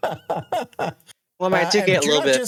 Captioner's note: laughter